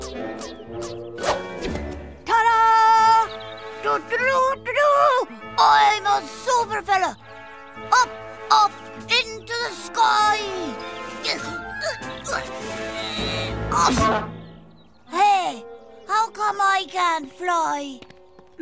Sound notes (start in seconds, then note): 3.7 mimics bugle call; 10.9 straining; 13.7 funny horn sound